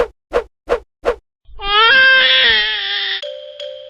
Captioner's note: crying